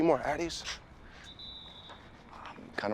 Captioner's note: distant whistle screeching